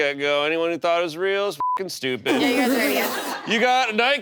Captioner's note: beep